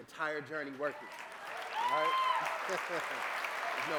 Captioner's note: applause